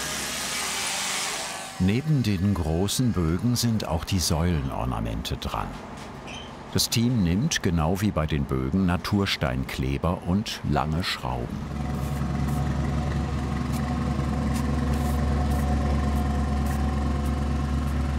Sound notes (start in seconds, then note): 11.6 motor rattling